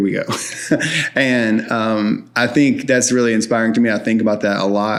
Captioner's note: chuckles